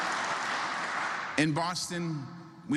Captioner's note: applause